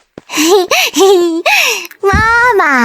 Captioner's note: giggles